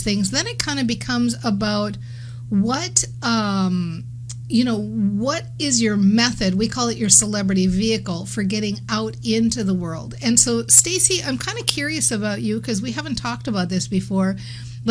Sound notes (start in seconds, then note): none